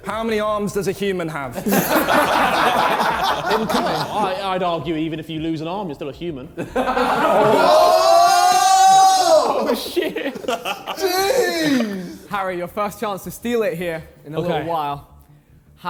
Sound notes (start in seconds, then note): 1.6 men laughing; 6.6 men laughing; 6.8 men exclaiming; 10.4 JJ laughing